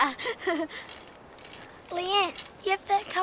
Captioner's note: laughs